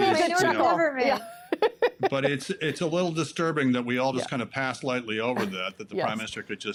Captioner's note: laughter